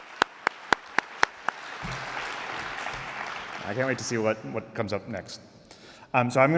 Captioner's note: applause